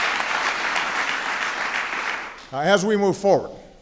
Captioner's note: applause